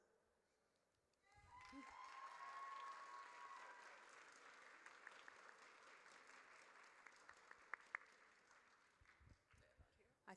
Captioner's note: audience cheers